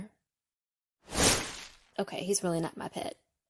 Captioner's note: sound of leaves whooshing